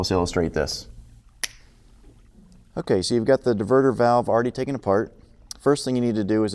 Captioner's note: snaps Fingers